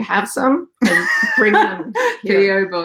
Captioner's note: laughs